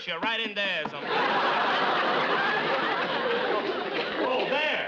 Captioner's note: audience laughs